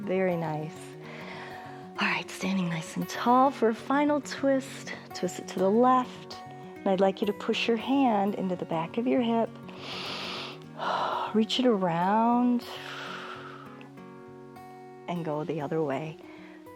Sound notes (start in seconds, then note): 9.7 inhales and exhales